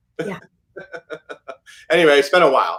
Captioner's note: laughs